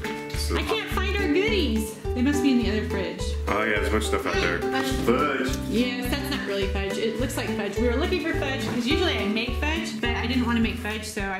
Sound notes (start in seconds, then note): none